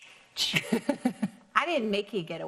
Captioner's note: laughs